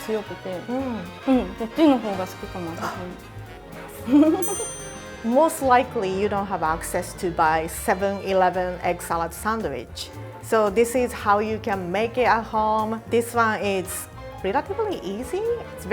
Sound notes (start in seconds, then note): 4.0 laughter